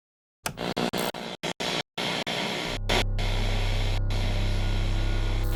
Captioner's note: screen buzzing and crackling